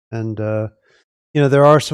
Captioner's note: none